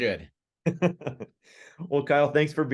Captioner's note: chuckles